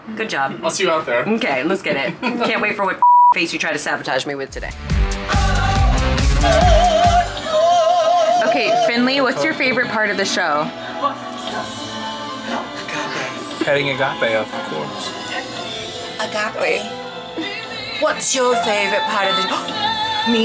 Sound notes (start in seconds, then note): 3.0 beep; 4.5 upbeat music; 19.8 gasps